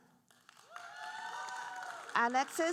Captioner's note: audience cheering and applauding